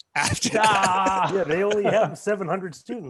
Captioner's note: laughing